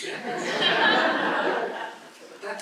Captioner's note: laughter